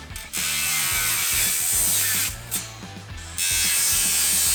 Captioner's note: metallic grind